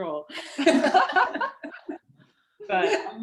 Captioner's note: laughter